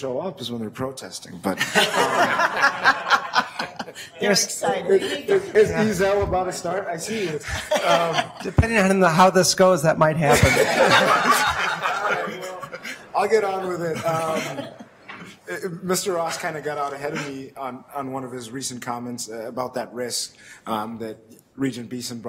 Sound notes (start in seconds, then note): 1.5 audience laughs; 10.3 laughing